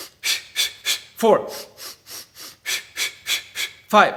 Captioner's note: air hisses